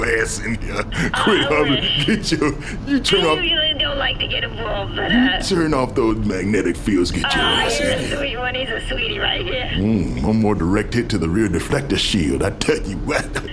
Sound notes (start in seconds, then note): 6.1 chuckling